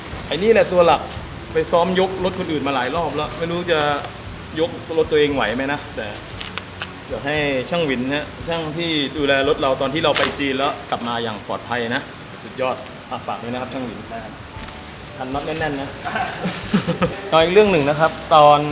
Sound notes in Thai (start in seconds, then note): 16.0 เสียงหัวเราะ